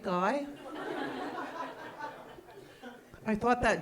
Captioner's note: audience laughing